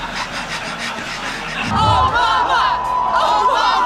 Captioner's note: hearty laughter from audience